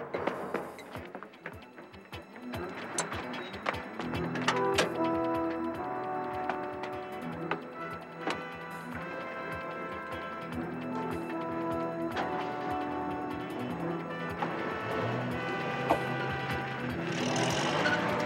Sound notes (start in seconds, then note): 2.6 upbeat music; 12.2 van engine roars